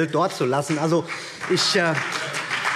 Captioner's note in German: Beifall